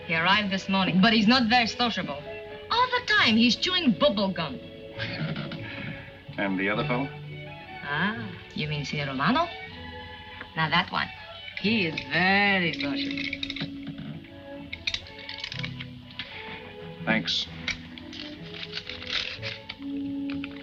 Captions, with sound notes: He arrived this morning but he's not very sociable. All the time he's chewing bubblegum. - (chuckling) And the other fellow? - Ah, you mean Senor Romano? Now that one, he's very sociable. - Thanks.